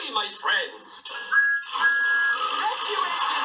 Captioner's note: thomas tooting